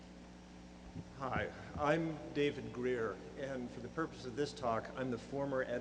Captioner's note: voiceover